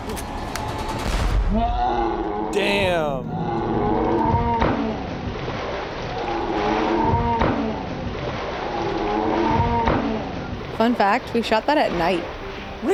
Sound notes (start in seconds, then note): 0.1 dramatic music; 0.8 gun fires; 1.1 Sexual Sun bellowing; 4.3 Sexual Sun bellowing; 4.4 water splashing